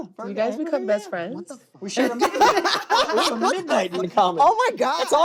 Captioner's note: laughter